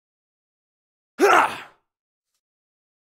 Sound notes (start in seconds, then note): 1.2 man's voice